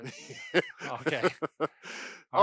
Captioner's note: laughing